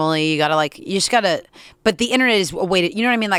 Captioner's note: none